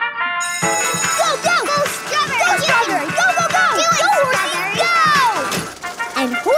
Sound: cheering

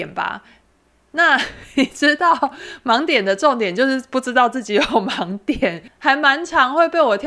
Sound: laughs

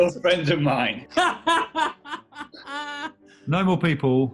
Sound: laughing

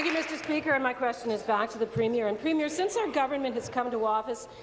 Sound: applause

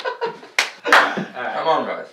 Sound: clap

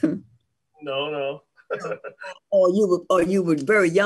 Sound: laughs

